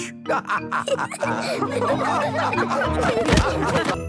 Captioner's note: all laughing